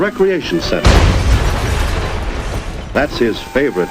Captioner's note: loud explosion